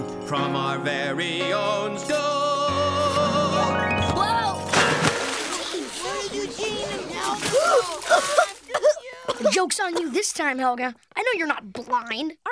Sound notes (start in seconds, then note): 4.6 splashing; 8.0 coughing